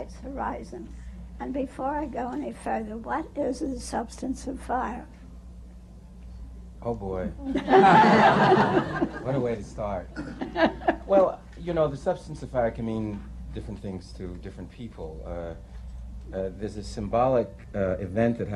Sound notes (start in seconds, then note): 7.4 laughter